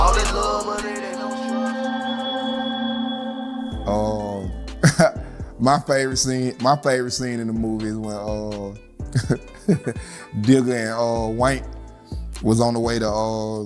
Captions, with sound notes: (rap music) (calm music) - (laughs) My favorite scene in the movie is when (laughs) Digga and Wank was on the way to,